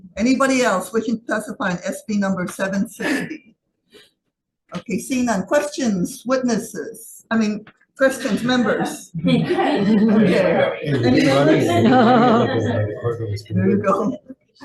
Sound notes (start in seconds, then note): 8.0 members chattering